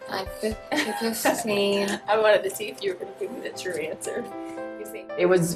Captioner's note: laughs